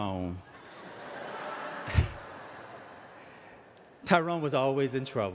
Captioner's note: audience laughing